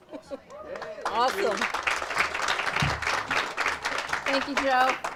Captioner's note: audience applauds